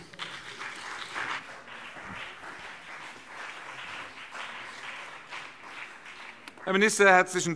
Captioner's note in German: Beifall BÜNDNIS 90/DIE GRÜNEN und CDU